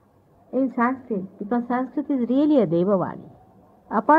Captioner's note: divine language/sounds